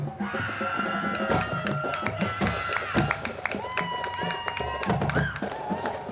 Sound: band music; crowd clapping and cheering

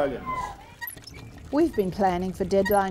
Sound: windmill squeaks

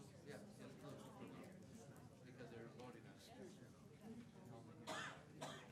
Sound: chattering amongst public

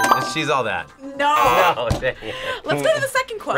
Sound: buzzer; laughs

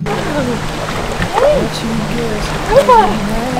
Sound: laughs

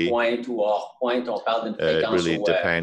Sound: speaking French

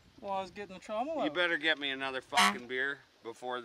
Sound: honk

